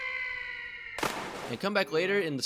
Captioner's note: splash